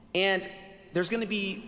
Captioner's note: none